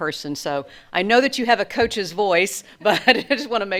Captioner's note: laughs